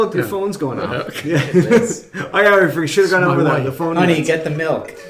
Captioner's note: laughing